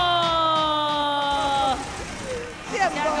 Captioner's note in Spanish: Aplausos